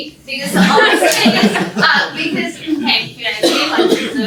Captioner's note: laughter